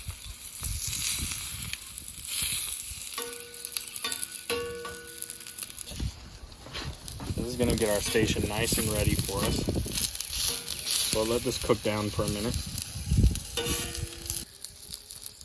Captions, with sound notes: (sizzle and spattering) These is gonna get our station nice and ready for us, we'll let this cook down for a minute.